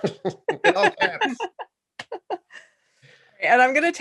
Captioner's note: laughter